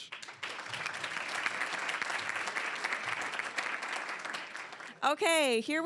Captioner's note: applause